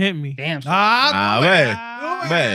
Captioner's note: speaking Spanish